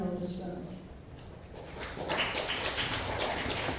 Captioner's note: clapping